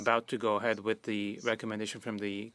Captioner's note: speaking French